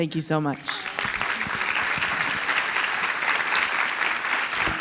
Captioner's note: audience applause